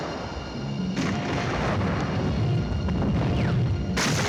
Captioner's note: explosions